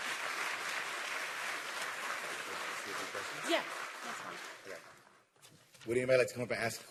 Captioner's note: applause